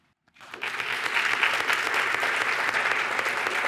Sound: applause

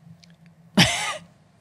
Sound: laughs

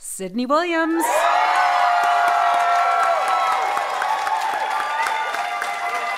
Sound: audience applauding and cheering

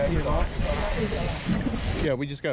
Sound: reel cranking

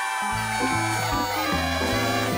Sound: cheers and applause

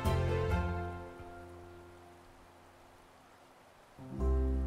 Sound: rushing water

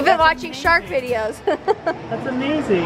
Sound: laughs

